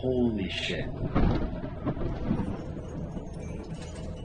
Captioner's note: thunder booming